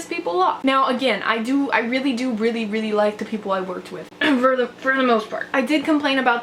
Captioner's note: cough